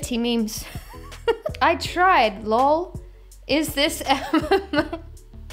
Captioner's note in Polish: śmiech